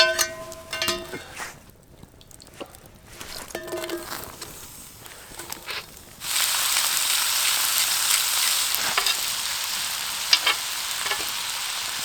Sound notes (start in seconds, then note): 0.0 pan ringing; 6.4 food sizzling